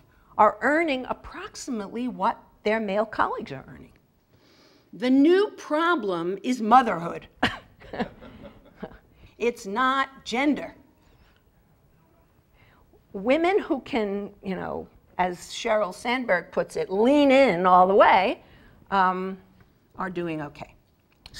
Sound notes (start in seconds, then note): 7.5 laugh